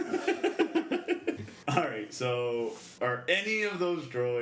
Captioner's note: laughs